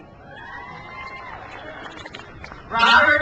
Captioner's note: crowd cheers